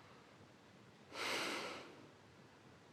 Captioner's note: inhales deeply